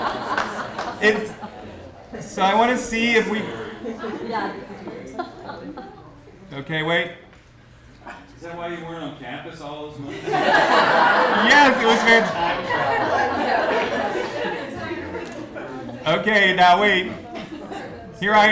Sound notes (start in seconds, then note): 3.0 laughter